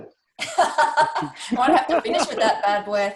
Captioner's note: the group laughs